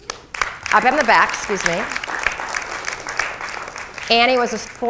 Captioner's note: crowd applauding